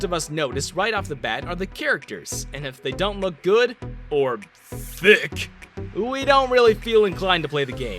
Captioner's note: deep voice